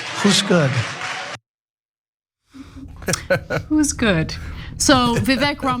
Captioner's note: laugh